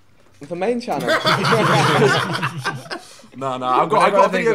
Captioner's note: laughing